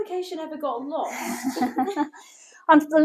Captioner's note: laughter